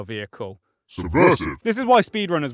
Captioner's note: distorted voice